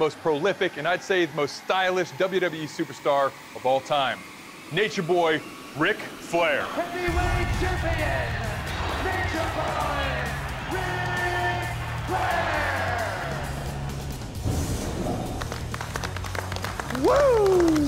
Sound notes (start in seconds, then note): 15.2 applause